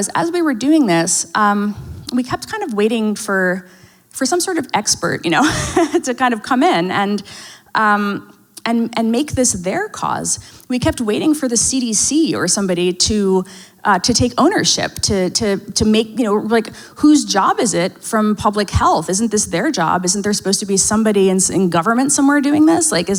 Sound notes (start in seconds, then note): 5.3 laughs